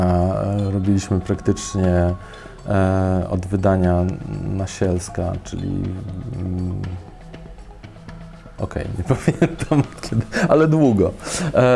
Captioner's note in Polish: śmiech